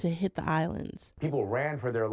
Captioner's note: soundbite of archived recording